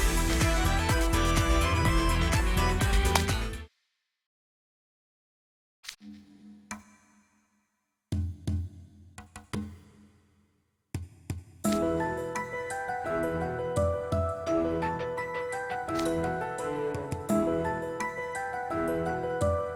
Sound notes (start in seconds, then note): 3.0 splat